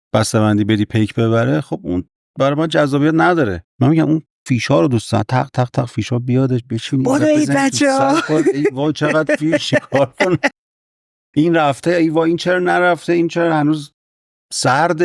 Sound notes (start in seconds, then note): 7.0 laughs